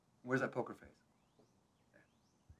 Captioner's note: playfully